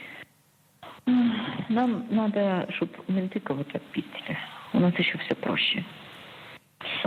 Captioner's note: speaking Russian